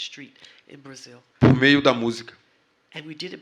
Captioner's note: speaking portuguese